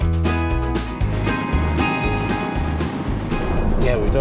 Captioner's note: car engine revving